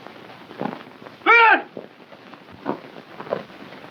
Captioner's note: yells